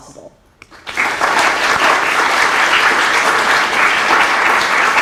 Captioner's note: applause